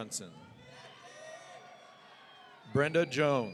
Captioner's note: audience cheering